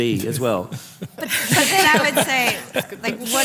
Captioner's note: laughter, crosstalk